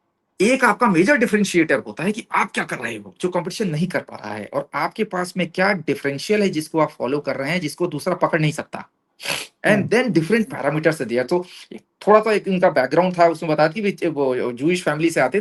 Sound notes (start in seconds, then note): 9.2 nasal sound; 9.7 sound of clearing throat